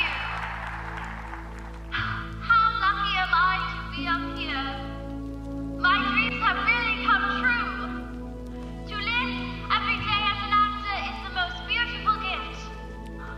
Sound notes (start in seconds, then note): 1.9 gasps